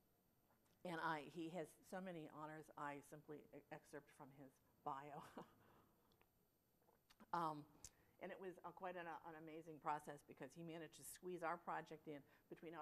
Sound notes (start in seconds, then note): 5.1 laughter